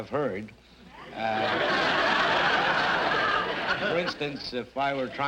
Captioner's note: audience laughter